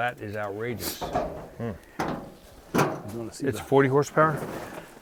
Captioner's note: metal banging